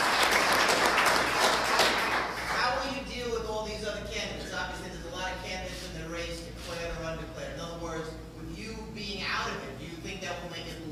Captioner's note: applause